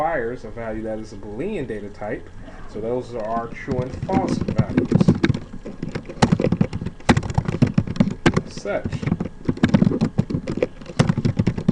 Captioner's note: typing sounds